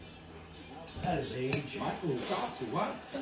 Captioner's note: TV playing football in the background